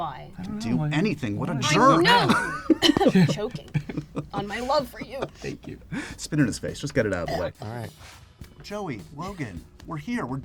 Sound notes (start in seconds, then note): 1.6 coughs; 7.6 hocking noises